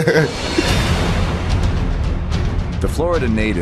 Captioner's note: laughs